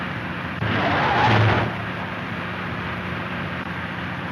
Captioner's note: car tires squeal